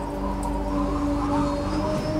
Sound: Y4: *slurp* *click* noice

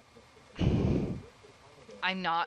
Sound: disgruntled deep breathing

